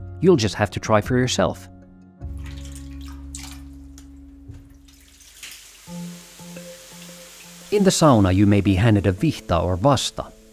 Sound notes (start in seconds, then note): 2.2 water trickles; 4.7 water rushes; 5.8 bright music